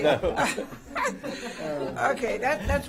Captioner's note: laughter